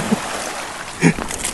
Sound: laughs

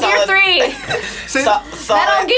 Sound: laughs

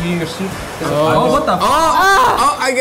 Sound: yells

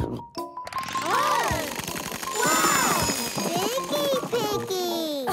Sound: surprised sounds

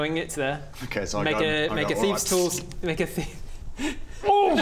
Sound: tzssz

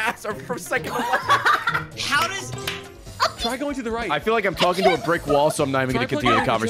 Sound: laughs

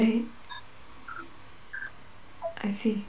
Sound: beeping

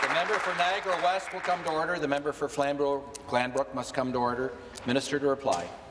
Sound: applause

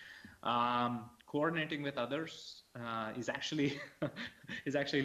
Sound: laughs

